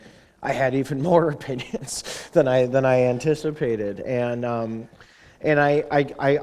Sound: chuckle

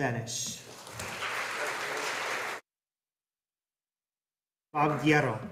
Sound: audience applauding

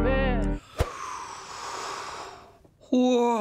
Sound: inhales deeply

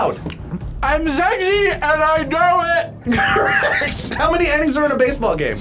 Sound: laughs

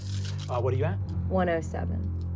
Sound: dice rolling

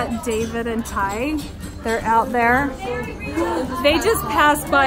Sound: gasping

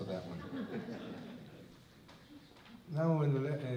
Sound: laughter

